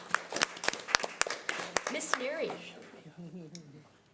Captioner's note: audience applause